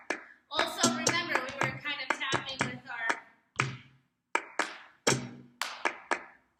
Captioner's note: hits thigh